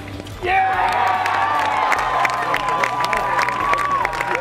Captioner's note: cheering/applause